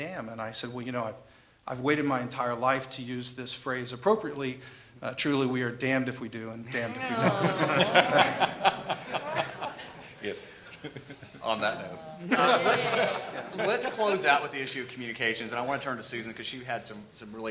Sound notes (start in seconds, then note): 10.2 laughter